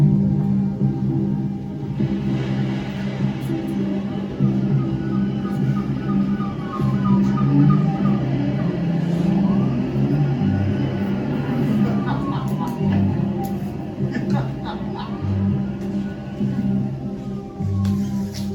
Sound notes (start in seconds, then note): 3.9 birds chirp; 7.9 siren wailing; 10.9 laughter